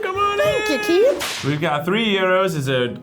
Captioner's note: whip cracks